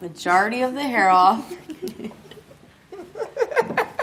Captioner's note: laughs